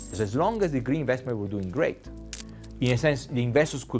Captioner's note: coin plinking; leaves crinkling